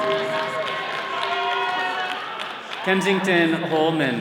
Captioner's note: all cheering